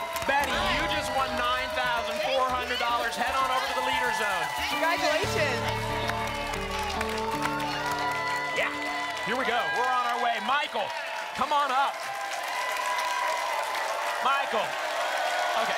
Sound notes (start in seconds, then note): 6.7 applause and cheering; 12.3 applause and cheering cont